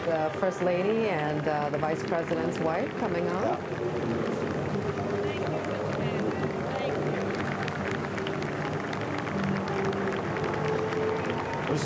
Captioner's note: cheering